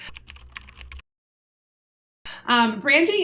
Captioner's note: typing